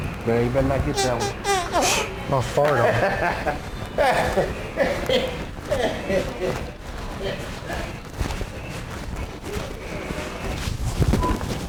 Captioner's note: farts